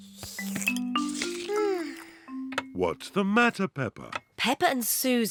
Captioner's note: sighs loudly